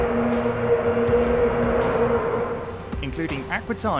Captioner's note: whistle